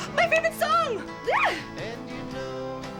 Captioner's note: squeals